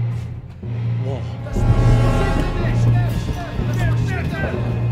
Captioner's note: soldiers shouting in German